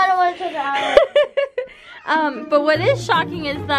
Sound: laughing

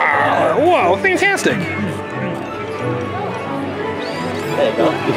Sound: roars

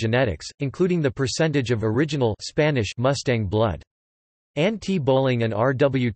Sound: Spanish

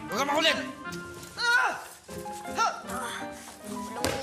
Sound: Pedrito groans; Shadow grunting

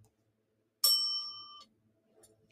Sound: bell dings

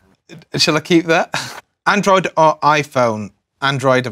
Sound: laugh

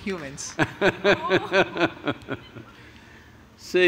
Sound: Sadhguru Laughs

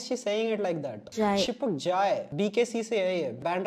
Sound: hindi in a Western accent

